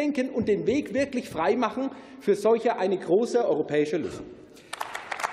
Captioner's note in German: Beifall